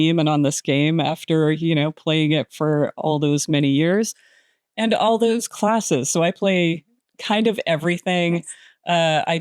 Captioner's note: none